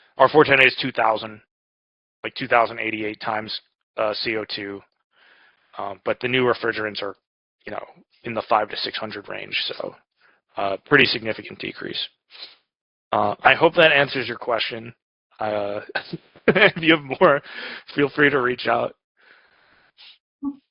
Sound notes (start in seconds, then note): 16.5 laughs